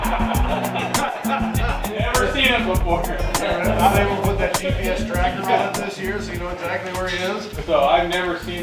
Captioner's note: laughter